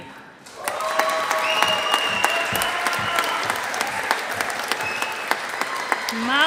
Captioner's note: audience applauding